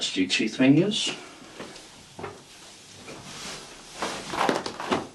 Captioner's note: rope rustling